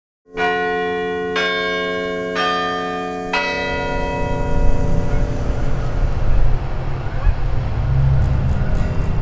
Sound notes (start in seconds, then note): 0.3 campanile bells; 6.4 geese honking; 6.4 traffic noise